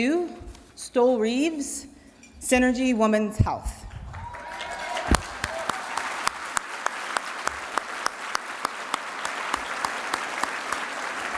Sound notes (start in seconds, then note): 4.0 applause